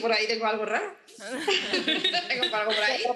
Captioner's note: they all laugh